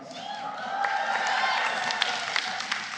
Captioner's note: applause